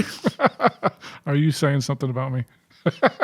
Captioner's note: chuckling